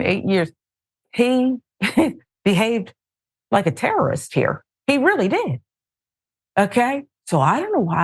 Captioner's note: laugh